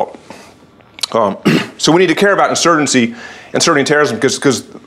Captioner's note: cough